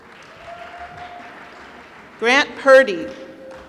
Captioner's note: applause